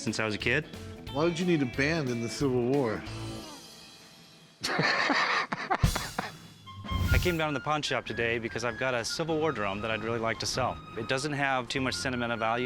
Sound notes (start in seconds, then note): 4.6 laughs; 5.8 fife and drum music